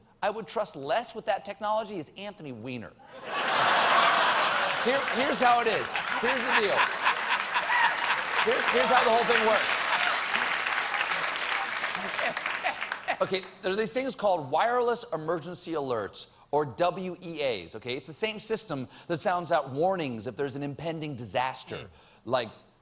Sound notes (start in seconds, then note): 3.1 laughter; 8.9 applause